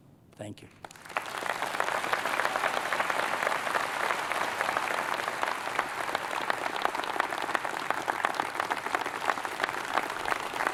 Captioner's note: applause